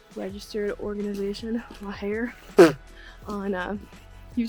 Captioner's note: pfft